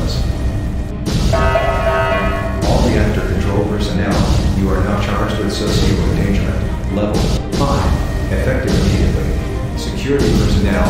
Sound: announcement Chime

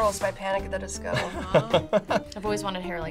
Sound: laughs

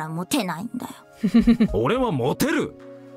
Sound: chuckles

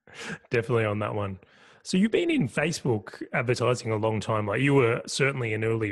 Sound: laugh

